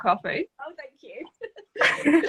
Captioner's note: both laughing